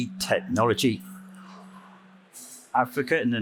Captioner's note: microphone feedback